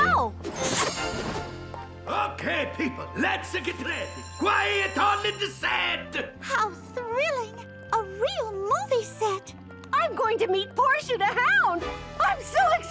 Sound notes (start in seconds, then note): 3.6 bell rings